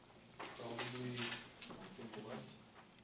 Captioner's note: voiceover